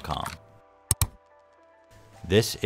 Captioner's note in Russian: клик